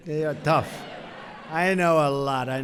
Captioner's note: laughter